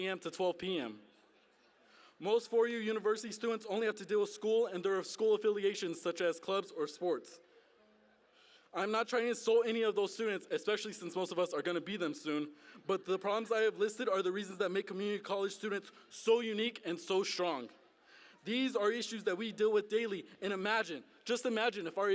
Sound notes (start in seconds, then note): none